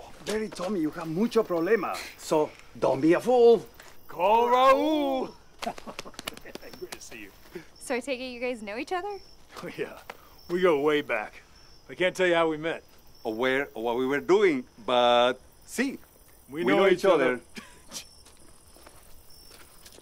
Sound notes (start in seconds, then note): 5.5 quiet laughter